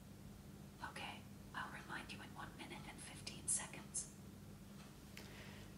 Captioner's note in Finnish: whisper